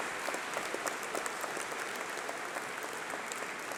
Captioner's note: applause